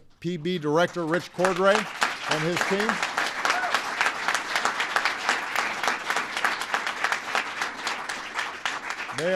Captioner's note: applause